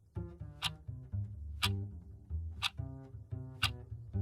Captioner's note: clock ticking